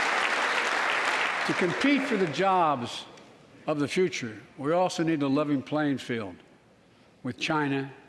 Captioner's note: applause